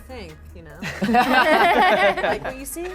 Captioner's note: laughter